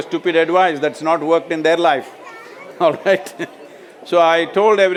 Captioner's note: laughs